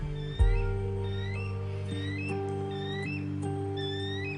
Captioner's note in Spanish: Graznidos